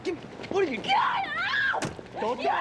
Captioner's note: shrieking